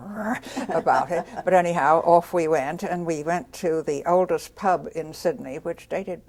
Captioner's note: laughs